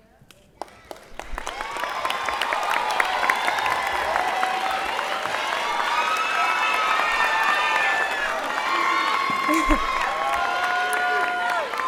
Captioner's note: applause and Cheers